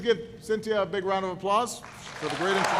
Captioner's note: applause